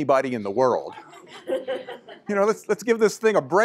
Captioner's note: laughter